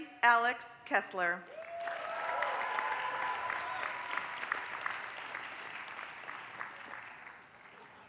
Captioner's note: applause